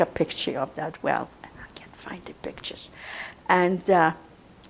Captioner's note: whispering